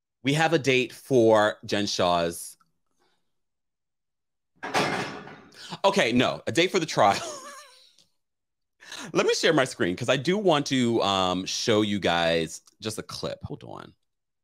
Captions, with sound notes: - We have a date for Jen Shah's. (clattering) Okay, no, a date for the trial. (chuckling) Let me share my screen, 'cause I do want to show you guys just a clip. Hold on.